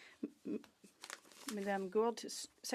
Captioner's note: speaking French